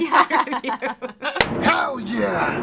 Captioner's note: all laughing